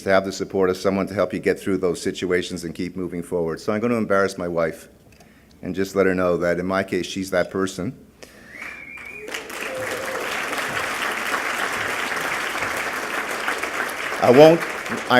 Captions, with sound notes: to have the support of someone to help you get through those situations and keep moving forward. So I'm going to embarrass my wife, and just let her know that in my case, she's that person. [ Clapping ]